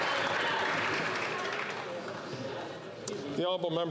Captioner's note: some Applause